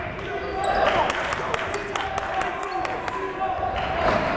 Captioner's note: yelling